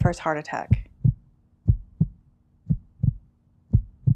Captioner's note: heartbeats